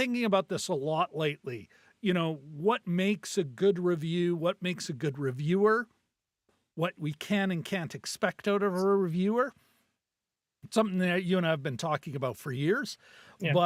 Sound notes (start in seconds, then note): none